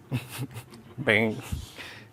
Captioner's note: chuckles